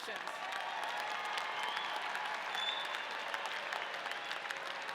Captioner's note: audience cheering